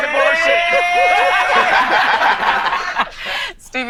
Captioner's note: group laughing